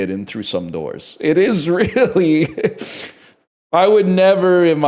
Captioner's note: cracks up